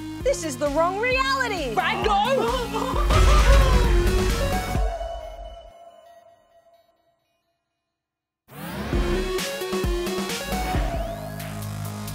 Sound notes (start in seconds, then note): 2.0 laughs